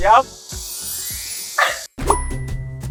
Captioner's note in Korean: 반짝이는 효과음